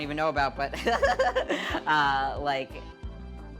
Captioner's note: laughing